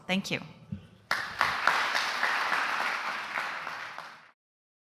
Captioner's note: applause